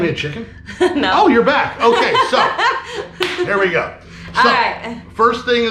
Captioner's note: laughing